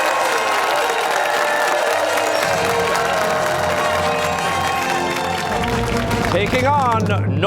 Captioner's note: fanfare; cheers and applause